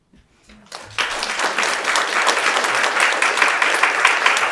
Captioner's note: audience applauds